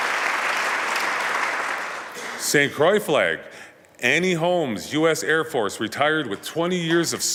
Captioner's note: applause